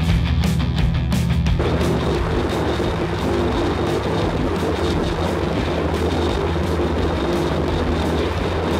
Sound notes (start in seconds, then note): 1.5 plane engine roaring